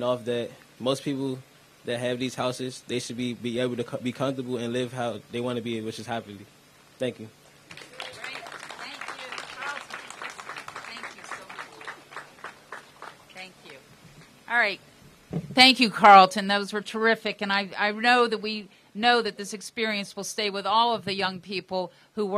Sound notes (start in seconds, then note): 7.6 applause